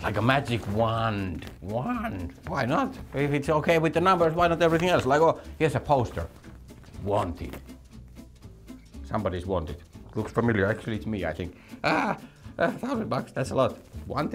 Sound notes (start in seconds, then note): 11.8 laughs